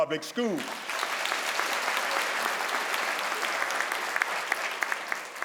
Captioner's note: crowd applauds